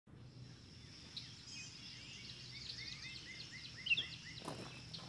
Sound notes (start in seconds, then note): 0.2 birds chirping